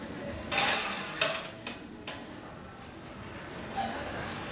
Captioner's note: banging; audience laughing